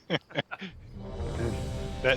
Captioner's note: laughter